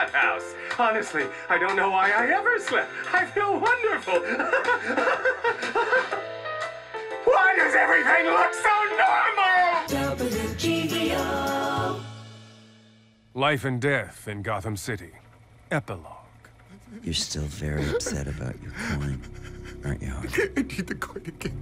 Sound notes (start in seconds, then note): 4.2 laughs hysterically; 6.7 screams; 20.0 crying